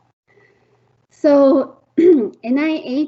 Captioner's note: throat clearing